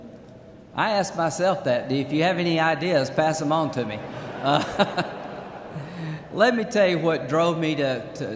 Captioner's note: laughter